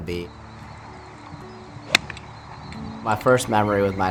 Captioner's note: club whacking